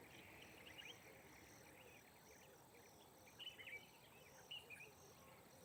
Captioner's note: birds chirping